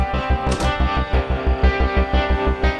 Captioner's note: Door closes